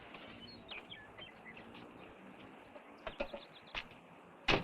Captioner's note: birds chirping